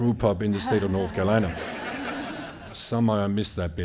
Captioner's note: audience laughing